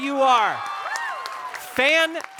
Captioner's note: audience applauding; audience cheering